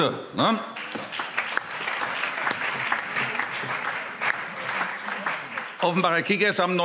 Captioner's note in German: Beifall CDU, BÜNDNIS 90/DIE GRÜNEN und SPD